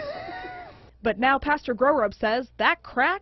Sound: laughs

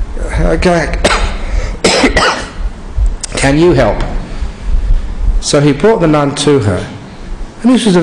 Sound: coughs

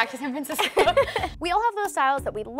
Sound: laughing

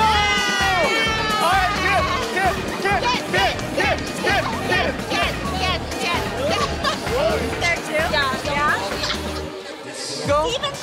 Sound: chanting kiss, kiss, kiss

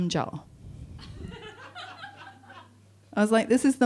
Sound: audience laughing

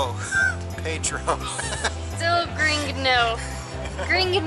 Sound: laughter

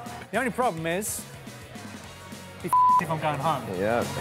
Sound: beep

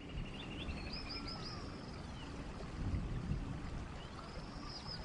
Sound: birds chirping

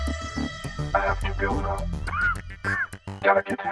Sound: cough

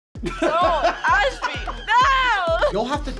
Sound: laughs

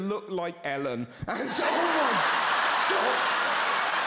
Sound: crowd laughs louder

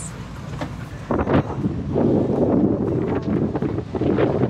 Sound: wind blowing

